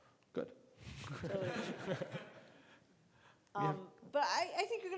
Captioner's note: laughing